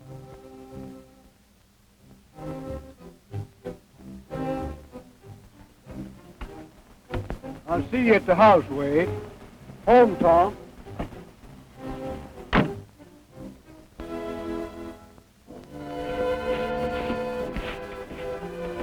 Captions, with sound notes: - I'll see you at the house, Wade. Home, Paul. (door shutting) (sentimental music)